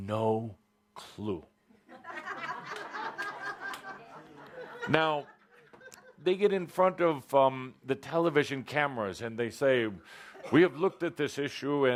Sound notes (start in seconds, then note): 1.8 laughter